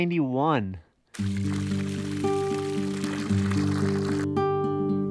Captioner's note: water trickling; bright guitar music